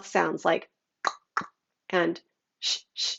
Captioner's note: tongue clicking